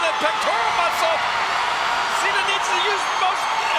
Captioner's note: audience cheers